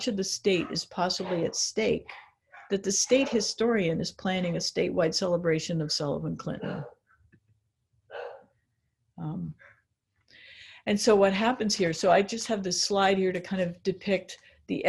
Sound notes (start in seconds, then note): 8.1 dog barks